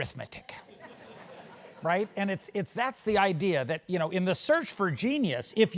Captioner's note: laugh